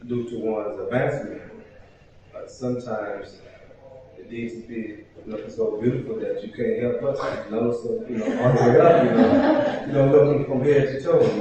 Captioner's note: laughter